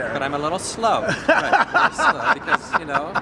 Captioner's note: laughs